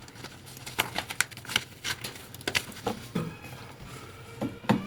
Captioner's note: paper crinkling